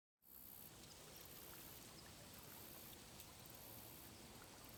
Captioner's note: crickets chirping